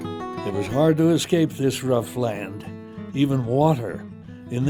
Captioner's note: voiceover